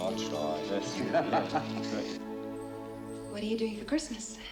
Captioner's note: laughing